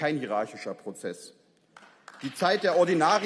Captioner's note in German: Beifall